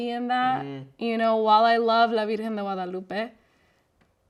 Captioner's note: speaks in foreign language